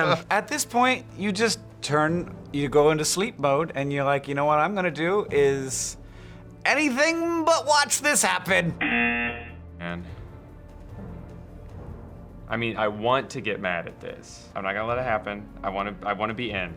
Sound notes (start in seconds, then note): 8.8 buzzer